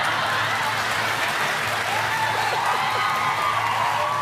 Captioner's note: laughter, cheers, applause; laughs